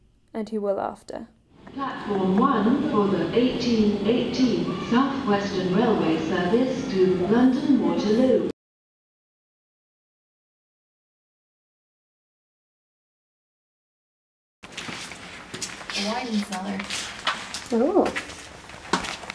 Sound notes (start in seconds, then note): 14.6 footsteps